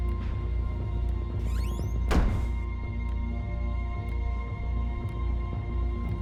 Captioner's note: door creaks and slams